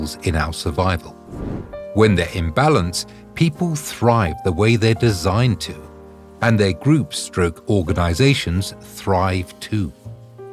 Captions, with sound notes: in our survival. (air whooshing) When they're in balance, people thrive the way they're designed to, and their groups/organizations thrive too.